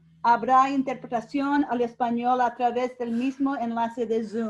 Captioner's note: speaking in Spanish